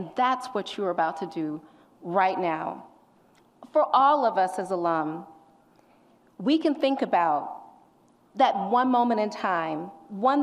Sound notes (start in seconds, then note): none